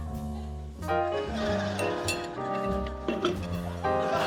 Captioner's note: laughter